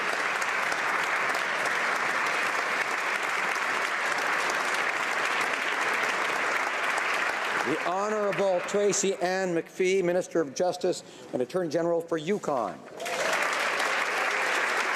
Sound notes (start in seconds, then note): 0.0 applause